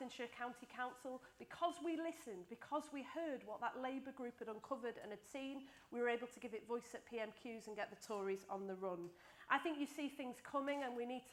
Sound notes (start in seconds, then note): none